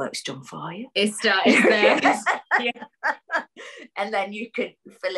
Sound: laughs

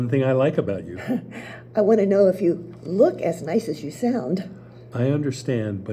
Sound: laughs

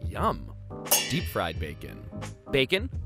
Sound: pans banging together

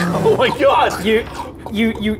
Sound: exposed gut noises

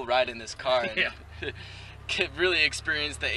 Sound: chuckling

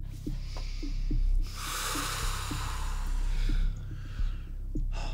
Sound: sighs

